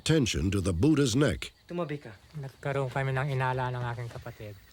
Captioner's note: non-english speech